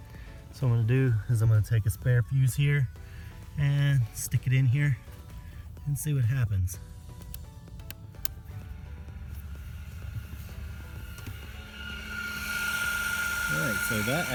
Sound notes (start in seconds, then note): 8.2 loud mechanical noise